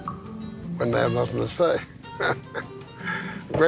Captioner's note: chuckles